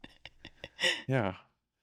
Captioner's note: laughing